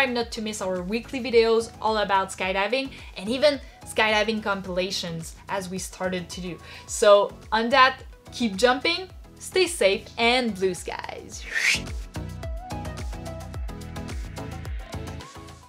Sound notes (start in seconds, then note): 11.4 whistles; 12.6 upbeat music